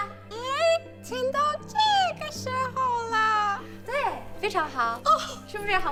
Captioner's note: speaking foreign language